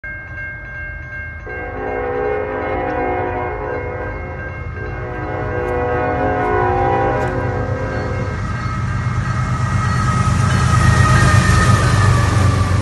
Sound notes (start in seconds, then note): 0.0 train crossing bells; 1.4 train horn